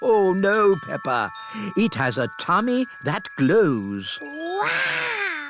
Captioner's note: laughs